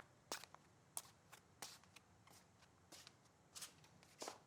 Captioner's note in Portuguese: chinelos arrastando